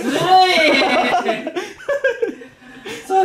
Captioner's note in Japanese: 笑い